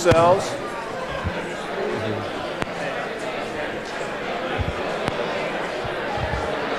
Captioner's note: chatter